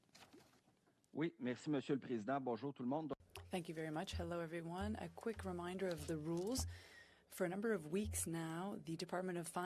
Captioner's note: speaking French